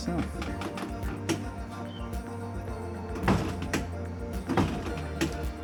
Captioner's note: door opens